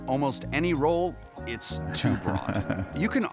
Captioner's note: chuckles